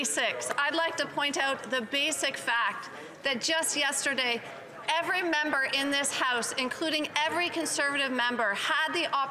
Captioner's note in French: voix de l'interprète